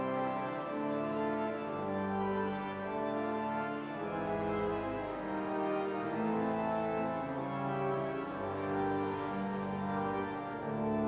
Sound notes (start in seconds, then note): none